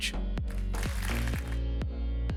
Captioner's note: clapping; upbeat music